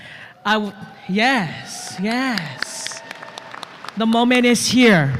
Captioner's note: applause